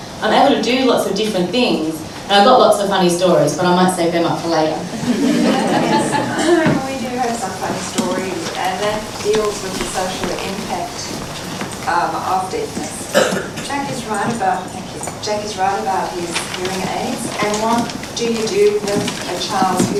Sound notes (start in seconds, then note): 4.9 laughter